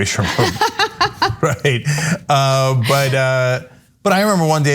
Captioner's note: laugh